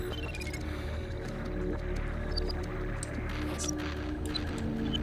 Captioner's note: beeps, clicks